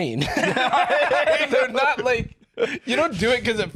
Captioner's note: both laughing